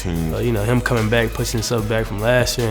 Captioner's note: voiceover